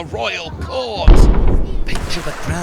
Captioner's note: boom!